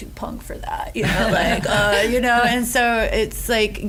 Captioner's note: laughter